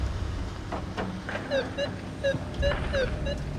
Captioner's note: device beeping